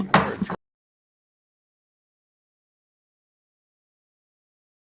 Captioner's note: gravel bangs